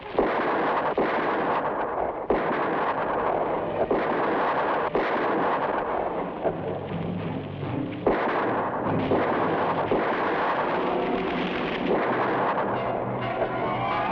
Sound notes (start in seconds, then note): 0.0 fire crackles; 0.0 gunshots blast; 3.8 fire crackles; 3.8 gunshots blast